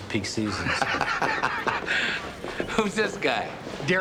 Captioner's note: laughs